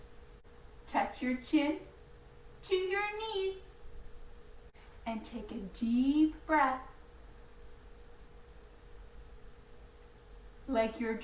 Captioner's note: breathing in and out through nose